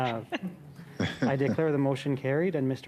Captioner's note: laughter